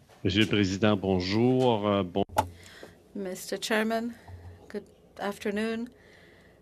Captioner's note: speaking French